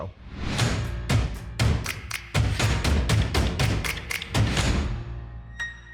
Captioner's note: hand claps